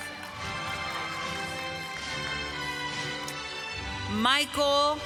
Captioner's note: applause